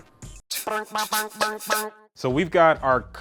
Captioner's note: quirky sound